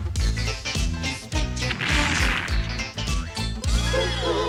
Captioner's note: explosion